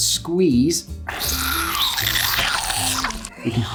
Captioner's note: buttery vomit sounds